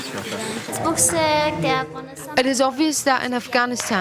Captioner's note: speaking foreign language